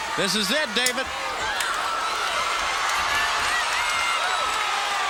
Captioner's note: crowd cheering